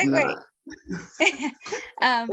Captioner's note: laughter